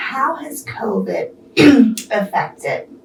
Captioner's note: clears throat